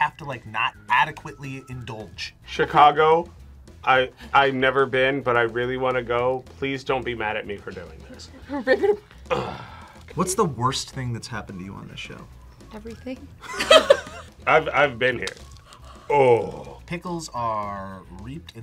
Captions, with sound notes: to not adequately indulge. - Chicago, I've never been, but I really wanna go. Please don't be mad at me for doing this. - Rip it up. - What's the worst thing that's happened to you on the show? - Everything. - (both laugh) - I've been here. Ohhh. - Pickles are reaped